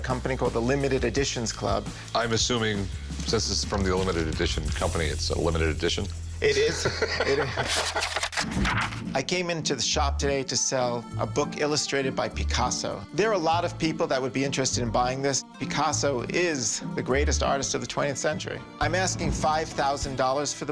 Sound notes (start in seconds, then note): 6.6 laughing